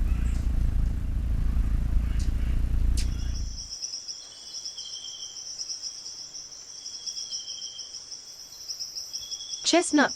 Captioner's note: bird's wing flapping; birds chirping